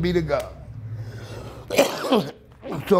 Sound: coughing

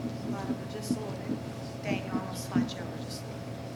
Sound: faintly speaking

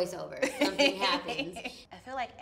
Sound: laughs

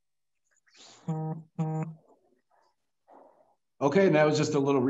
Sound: phone buzzing

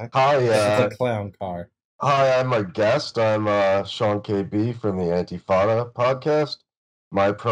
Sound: extremely shitty mic voice

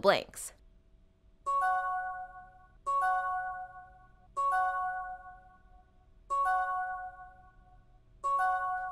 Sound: new message chimes

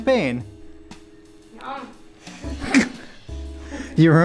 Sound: laughs

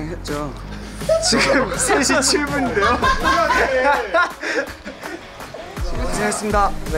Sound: the members laughing at the sudden interview

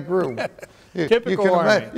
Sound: laughter

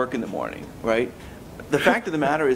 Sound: laughs

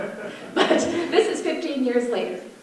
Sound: audience laughter

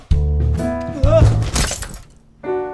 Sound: thud

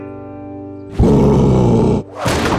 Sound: roaring

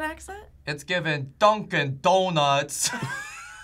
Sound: accented; both laugh

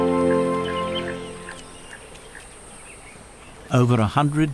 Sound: nature sounds

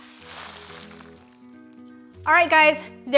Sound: contents shaking around

